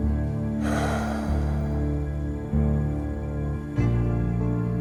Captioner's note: breathes deeply